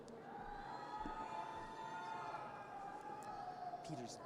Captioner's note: audience cheers